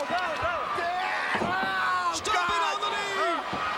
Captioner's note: Ric yelling